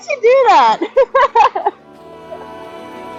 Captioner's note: laugh